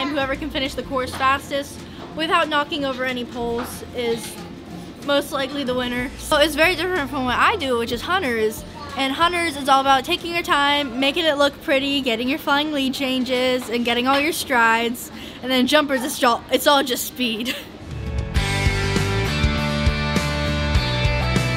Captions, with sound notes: Whoever can finish the course fastest without knocking over any poles is most likely the winner. So it's very different from what I do, which is Hunter is and hunters is all about taking your time making it look pretty, getting your flying lead changes and getting all your strides. And then jumpers is... It's all just speed, (chuckles). (bright upbeat music)